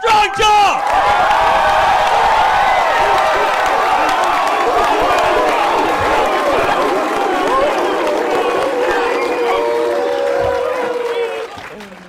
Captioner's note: cheering and chanting